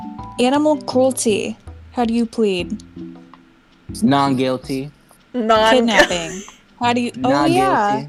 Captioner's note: laughing